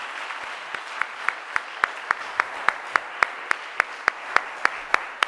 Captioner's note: audience applauding